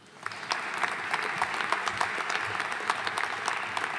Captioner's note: audience applauding